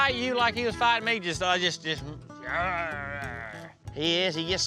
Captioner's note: grunting